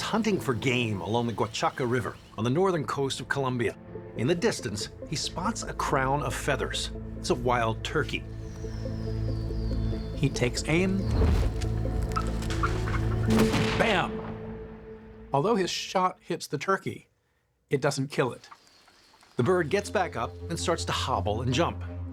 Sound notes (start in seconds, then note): 12.1 turkey squawking; 13.3 gunshot